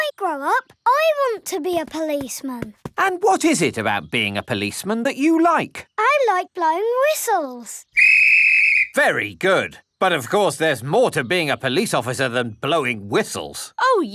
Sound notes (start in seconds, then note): 7.9 blows whistle